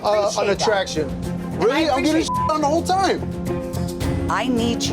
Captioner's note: beep